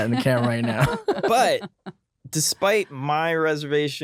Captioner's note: laughing